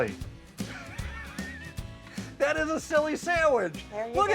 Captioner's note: laughs